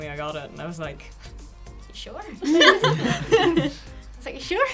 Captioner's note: all laughing